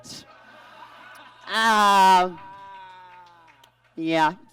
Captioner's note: audience laughs